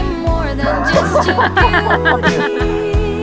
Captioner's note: laughing at each other